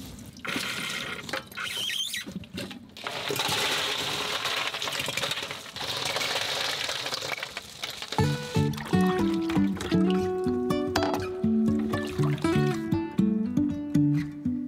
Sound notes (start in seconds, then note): 2.9 ice clattering; 8.1 upbeat guitar music